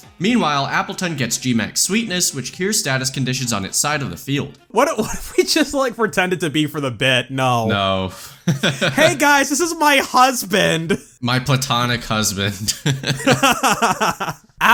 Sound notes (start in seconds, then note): 8.3 laughs